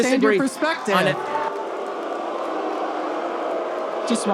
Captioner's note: audience boos